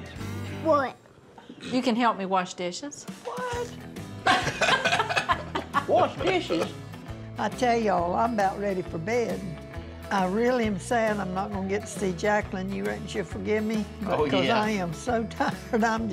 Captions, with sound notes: WHAT? YOU CAN HELP ME WASH DISHES. [EVERYBODY LAUGHS] WASH DISHES? I TELL Y'ALL, I'M ABOUT READY FOR BED. I REALLY AM SAD I'M NOT GONNA GET TO SEE JACLYN. YOU RECKON SHE'LL FORGIVE ME BECAUSE I AM SO TIRED.